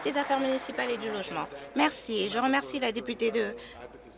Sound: applause

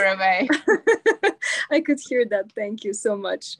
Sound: laughs

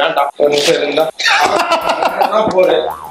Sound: laughs

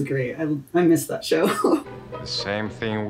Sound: laughs

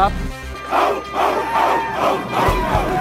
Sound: players chanting

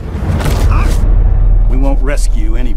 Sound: cracking sound

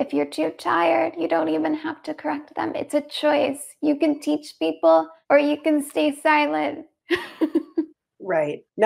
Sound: laughs

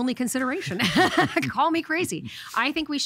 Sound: laughing

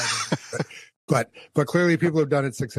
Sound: laughs

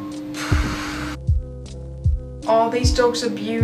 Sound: exhales

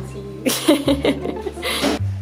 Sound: laughs

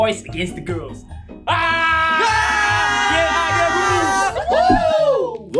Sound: some mad camp cheer going on

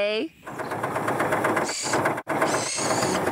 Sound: engine Running

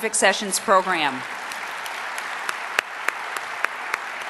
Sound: audience applause

